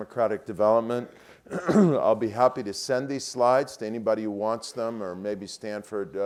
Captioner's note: cough